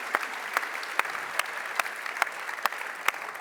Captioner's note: applause